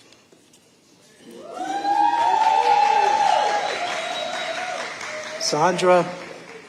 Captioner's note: audience cheering